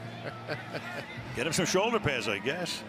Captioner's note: laughs